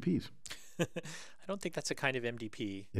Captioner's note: laugh